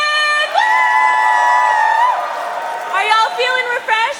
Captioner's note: cheering